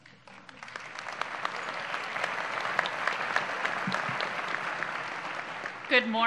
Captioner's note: applause